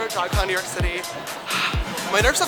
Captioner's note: breath